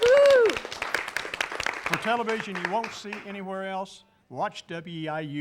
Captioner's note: �applause�